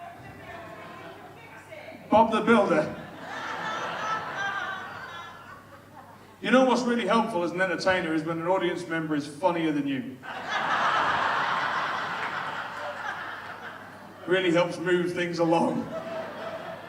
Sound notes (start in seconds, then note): 5.3 audience laughs; 10.2 audience laughs